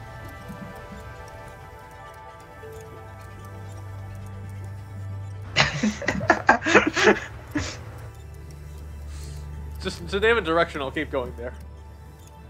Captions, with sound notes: (Laughing) Just… name a direction, and I'll keep going there.